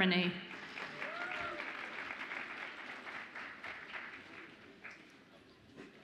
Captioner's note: audience applauds and cheers